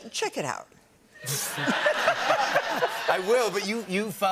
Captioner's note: laughter